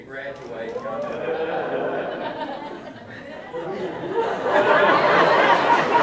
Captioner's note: audience laughs and groans